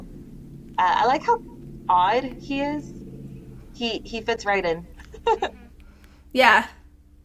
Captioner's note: laughter